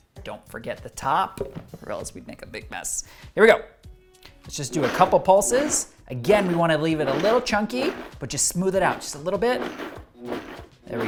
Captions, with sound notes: Don't forget the top or else we'd make a big mess. Here we go. (blender pulsing) Let's just do a couple pulses. Again, we wanna leave it a little chunky, but just smooth it out and just a little bit.